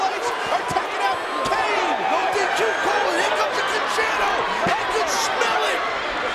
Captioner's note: presenter speaking faintly off mic